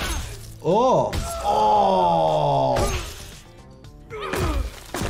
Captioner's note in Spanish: Linterna Verde gritando; golpeteo corporal